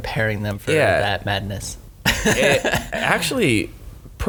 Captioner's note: laughs